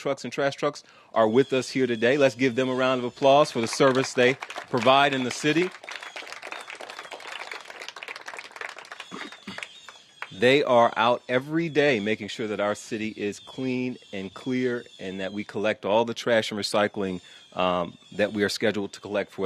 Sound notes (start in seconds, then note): 7.9 applause